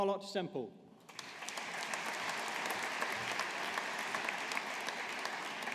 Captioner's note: audience applauding